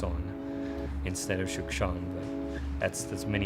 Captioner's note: speaks foreign language